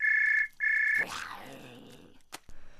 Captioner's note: phone ringing; growling; gasping